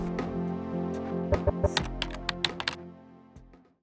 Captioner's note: typing sounds